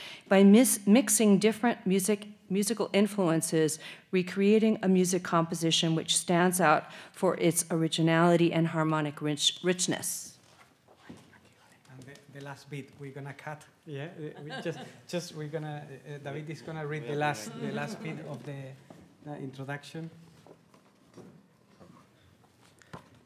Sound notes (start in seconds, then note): 11.5 whispers; 14.3 laughs